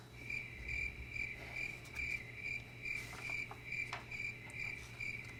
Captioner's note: crickets chirping